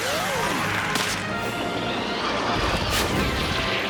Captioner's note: snap!